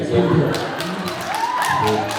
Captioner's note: applauds, cheers